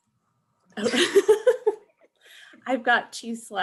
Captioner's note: laughing